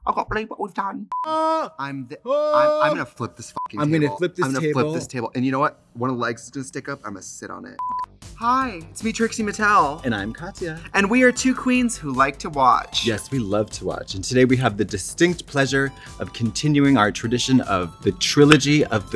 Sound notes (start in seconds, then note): 2.3 Katya yelling